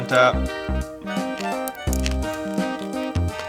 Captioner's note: crunching